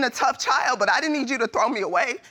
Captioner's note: voice breaks